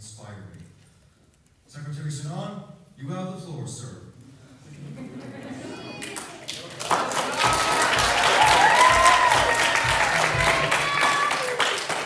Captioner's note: laughter, applause